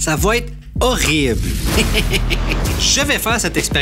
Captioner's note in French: rire